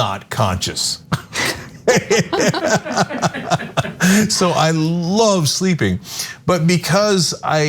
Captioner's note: laugh